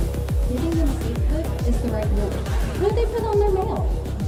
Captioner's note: voices distort